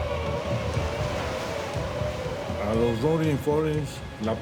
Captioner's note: in Spanish